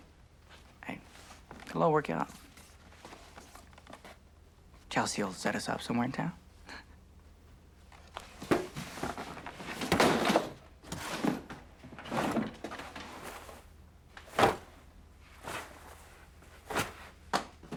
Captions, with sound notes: Hey. It'll all work out. Chelsea'll set us up somewhere in town. (box thudding) (clothes thudding)